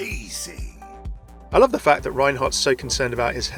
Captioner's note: voiceover